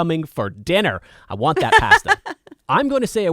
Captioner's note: laughing